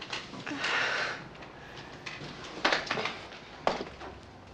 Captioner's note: Sarah sighs